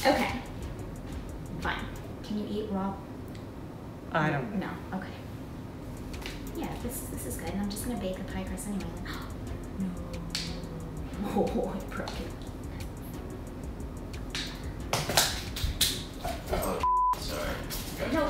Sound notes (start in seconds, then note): 9.0 gasps; 16.8 beep